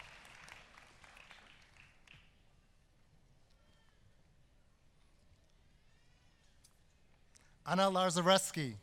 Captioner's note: applause